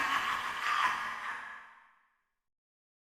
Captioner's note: Molten Freddy laughs